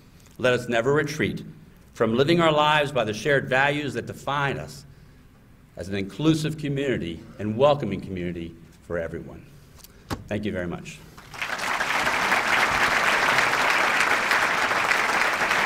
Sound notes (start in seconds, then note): 11.1 applause